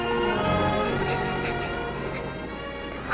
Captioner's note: Sandy crying